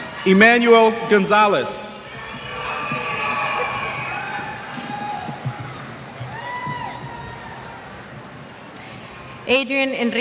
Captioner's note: cheers